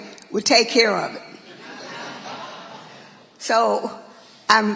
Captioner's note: audience laughing